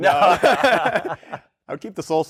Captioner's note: laughter